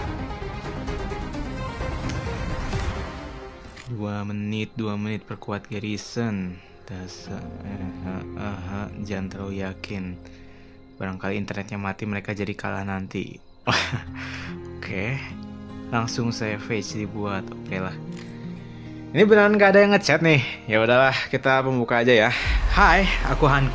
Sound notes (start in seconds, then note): 13.7 laughs